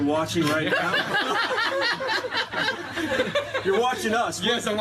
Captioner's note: laughter